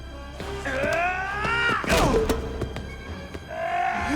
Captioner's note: Gammon yelling